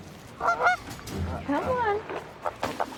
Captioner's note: geese quack